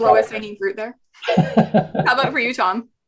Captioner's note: laughs